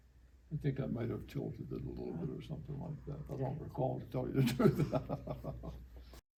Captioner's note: laughs